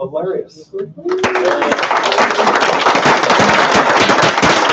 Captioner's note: applauding